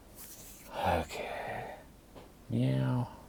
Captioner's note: sighs